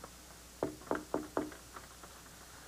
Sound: knock on door

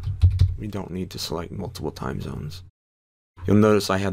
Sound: typing

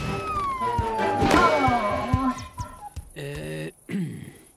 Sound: clears throat

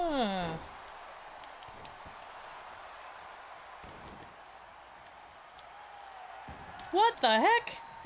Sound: applause

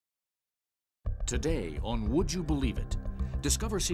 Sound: voiceover

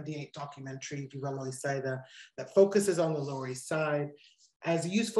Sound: non-english speech

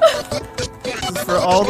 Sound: giggles

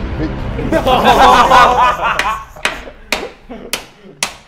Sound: laughs

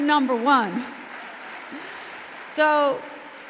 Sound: audience applauds

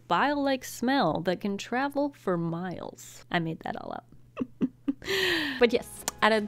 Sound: chuckles

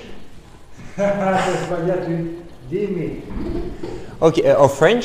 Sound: laughes

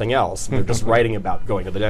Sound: laughing

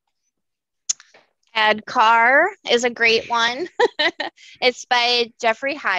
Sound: laughs

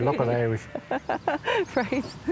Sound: laughing

